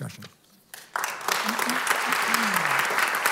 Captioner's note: applause